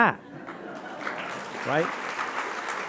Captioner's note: audience applauding